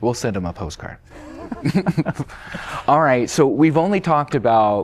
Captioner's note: laughter